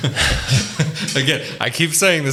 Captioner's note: laughing